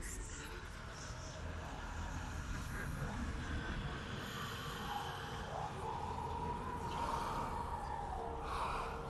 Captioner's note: echoing